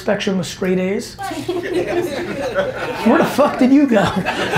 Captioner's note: audience laughing